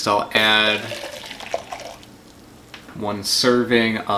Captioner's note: hot water splashes